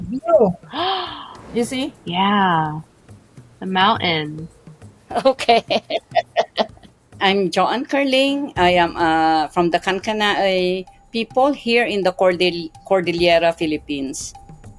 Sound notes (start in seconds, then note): 5.1 chuckling